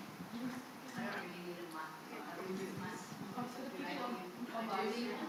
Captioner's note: attendees chattering